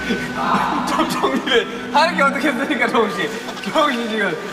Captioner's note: kekeke